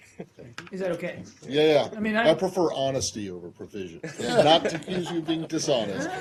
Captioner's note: laughter